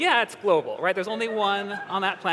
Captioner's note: laughter